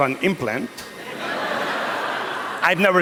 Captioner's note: laughter